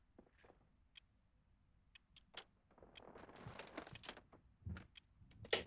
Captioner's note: clock ticking continues